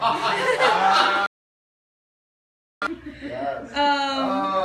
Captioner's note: laughing